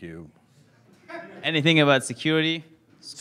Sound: laughing

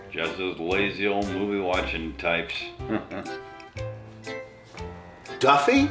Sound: laughs

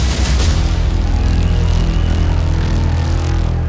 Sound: crowd clamoring and whistling

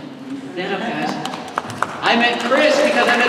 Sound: applause

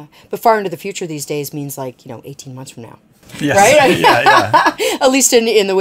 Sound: laughing

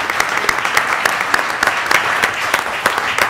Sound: applause

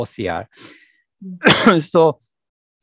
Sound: coughs

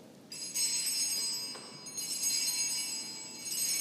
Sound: bell rings

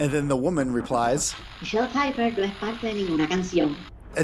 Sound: Spanish

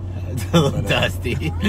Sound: laughing

